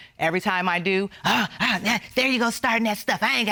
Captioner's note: gasps